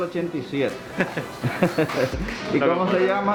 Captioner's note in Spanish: risas